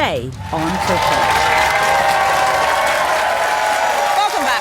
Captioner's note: audience cheering